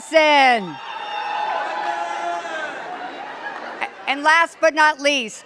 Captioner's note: cheers and claps